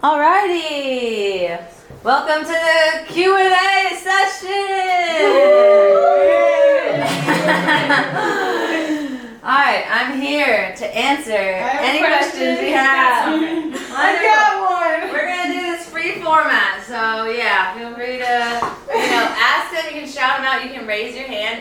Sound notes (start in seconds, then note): 5.1 cheers